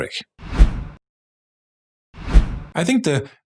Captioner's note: air whooshing